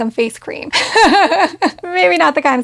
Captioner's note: laughing